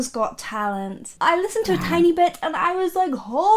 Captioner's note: character roars